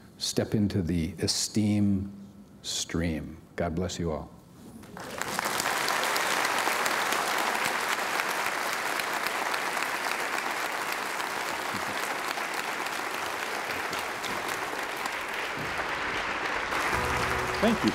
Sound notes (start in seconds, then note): 4.8 applause